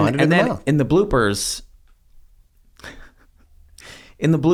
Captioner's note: laughs